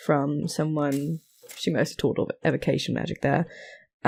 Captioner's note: mechanical whir